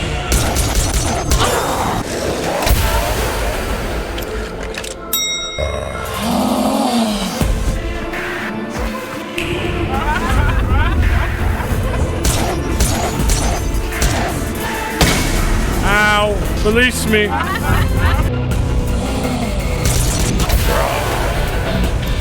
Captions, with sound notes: (gun firing) (gun firing) Ow. Release me. (the Duchess laughs) (gun firing)